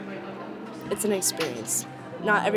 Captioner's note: none